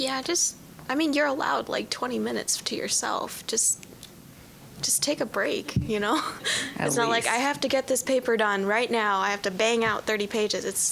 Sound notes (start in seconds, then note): 6.2 laughing